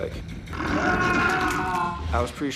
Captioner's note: screaming